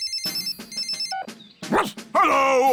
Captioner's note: phone rings; barks